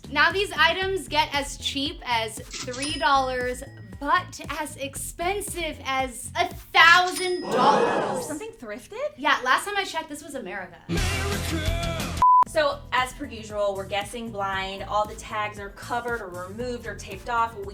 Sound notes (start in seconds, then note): 7.0 cash register chimes; 7.4 crowd gasps